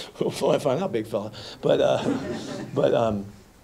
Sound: laughter

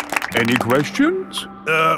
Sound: all clapping

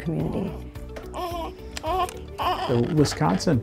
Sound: baby crying softly

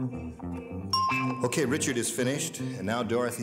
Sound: dinging

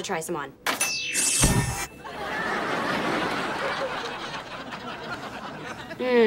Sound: computer dings

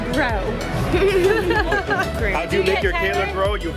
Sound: laugh

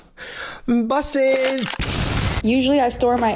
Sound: rifle cocks, explosion

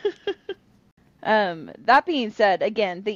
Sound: laughter

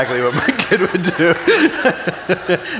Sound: laughing

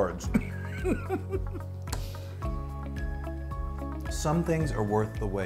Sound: chuckles

